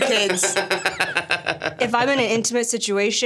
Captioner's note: Stavros laughs